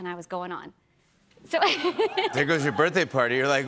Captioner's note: laughs